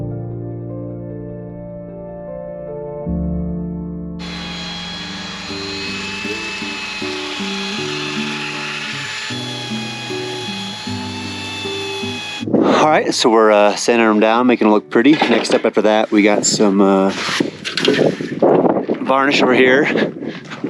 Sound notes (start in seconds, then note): 4.2 sanders running